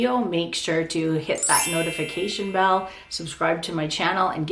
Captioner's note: bell rings